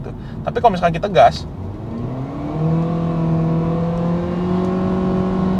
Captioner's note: engine roar sound